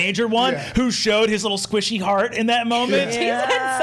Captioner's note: others laughing